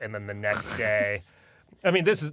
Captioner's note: laughs